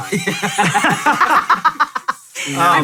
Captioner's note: guys laugh